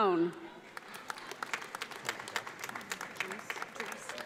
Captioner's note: audience applauds